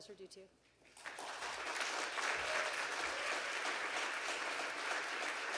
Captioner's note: audience applauding